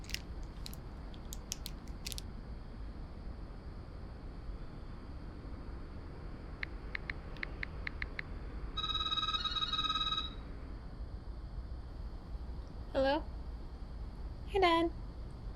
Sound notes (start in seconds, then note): 6.8 phone clicking; 8.8 phone ringing